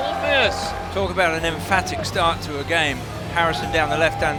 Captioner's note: voiceover